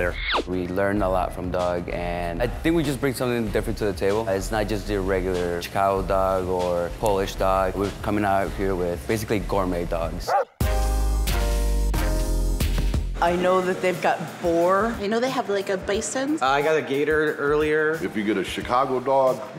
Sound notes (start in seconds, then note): 0.3 cartoonish sound effect; 10.2 dog barks; 11.1 mellow hiphop music